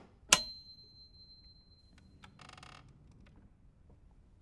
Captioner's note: lamp clicking